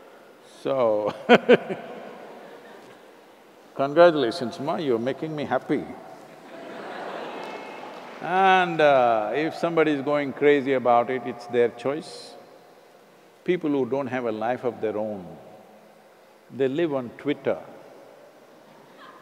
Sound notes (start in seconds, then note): 0.0 laughter; 1.1 laughs; 6.9 laughter